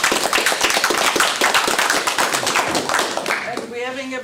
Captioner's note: applause